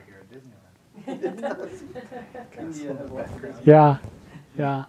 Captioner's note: audience laughing